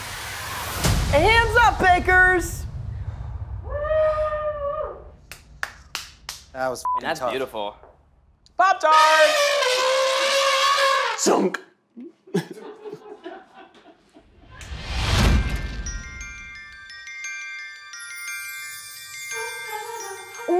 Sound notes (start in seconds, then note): 3.7 producers cheering; 8.9 elephant noises